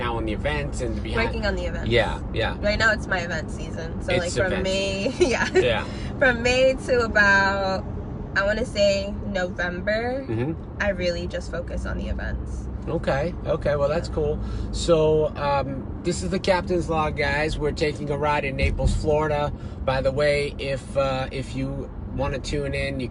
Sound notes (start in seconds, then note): 5.1 laughs